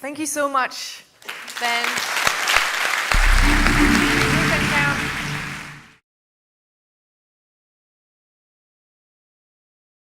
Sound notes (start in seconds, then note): 1.2 applause; 3.2 soft muted bells